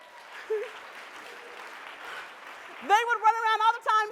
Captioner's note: audience applause